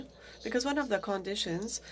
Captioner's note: speaking French